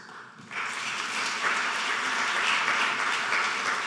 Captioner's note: applauding